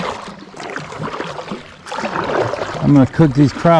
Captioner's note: paddles splashing